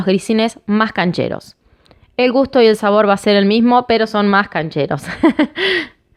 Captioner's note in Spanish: Risas